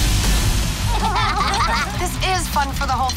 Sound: laughing

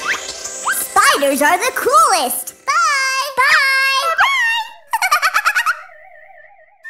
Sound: giggle

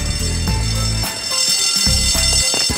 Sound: bell ringing

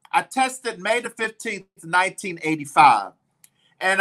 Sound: none

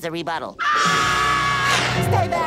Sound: screaming

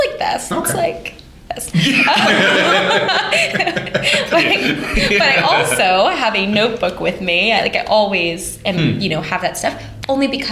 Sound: laughter

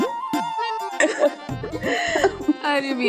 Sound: laughing

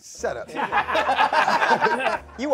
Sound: laughing

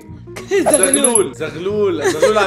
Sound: chuckles

